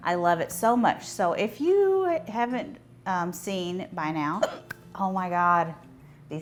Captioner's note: hiccups